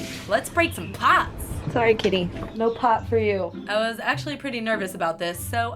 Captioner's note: none